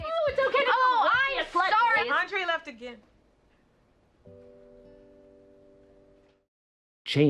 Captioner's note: group arguing; silence